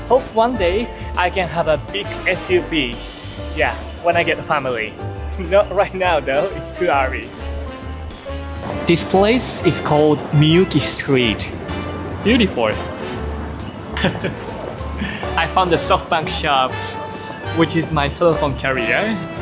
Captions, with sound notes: Hope one day I can have a big SUV. Yeah. When I get family. Not right now though. It's too early. This place is called Miyuki Street. Beautiful! [CHUCKLES] I found a SoftBank shop, which is my cellphone carrier.